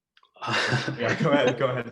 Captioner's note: laughs